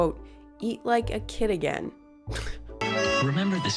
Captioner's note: chuckles